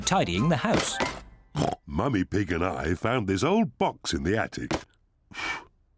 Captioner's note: snorts; blows